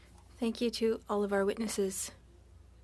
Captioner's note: speaking French